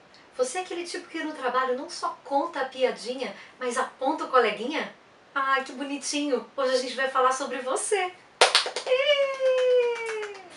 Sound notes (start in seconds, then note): 8.4 clap hands